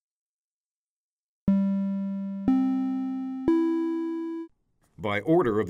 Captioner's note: audio Alert